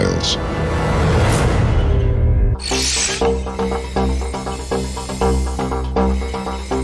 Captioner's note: tense music; digital beeping